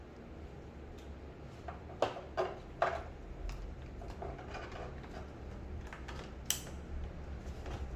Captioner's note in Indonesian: suara damper dipasang